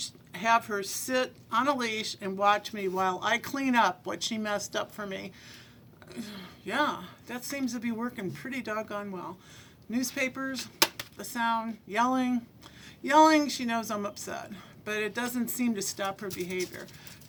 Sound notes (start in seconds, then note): 10.8 smacks hands